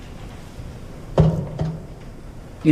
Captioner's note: knock